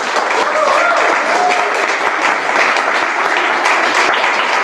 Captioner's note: applause